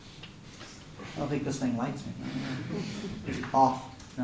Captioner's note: laughter